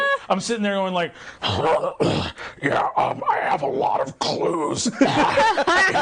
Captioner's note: grunting; others laughing